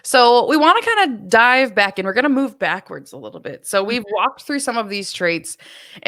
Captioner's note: none